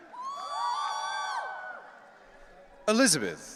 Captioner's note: audience cheering